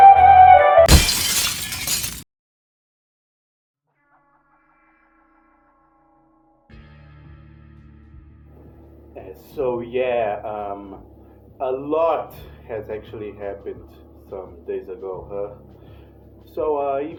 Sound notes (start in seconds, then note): 0.8 shattering Glass